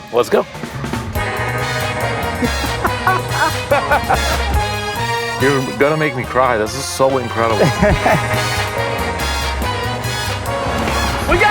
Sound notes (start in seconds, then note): 1.2 upbeat jazz music; 2.1 laughs; 7.5 laughs